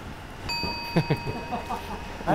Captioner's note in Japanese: 効果音 チーン